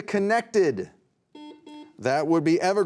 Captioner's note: beep